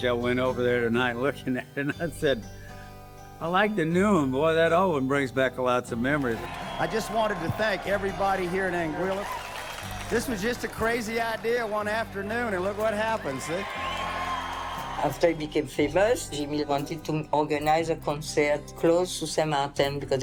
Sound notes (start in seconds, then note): 13.6 cheers and applause